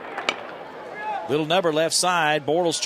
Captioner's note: voiceover